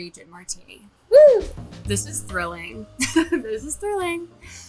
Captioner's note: chuckling